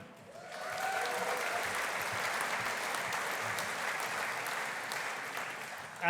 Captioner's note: audience applauding; audience cheering